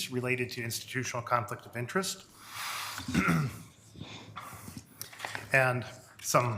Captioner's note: clears throat